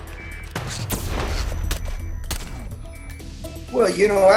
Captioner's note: gun shots